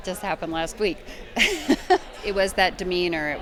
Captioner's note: laughs